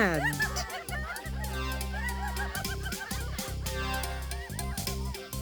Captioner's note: group laughs, upbeat music